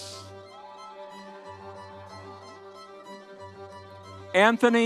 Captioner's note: audience cheering